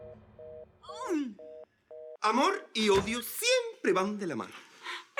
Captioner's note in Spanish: Sonido de apagado